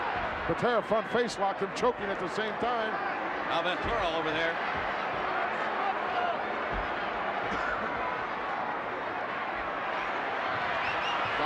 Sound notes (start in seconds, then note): 4.7 crowd yelling